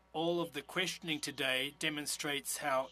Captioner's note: speaking French